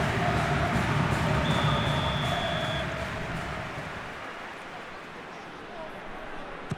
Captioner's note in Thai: ปรบมือ